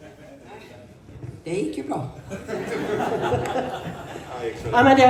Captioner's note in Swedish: skratt